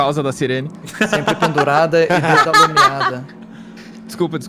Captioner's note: laugh; laughs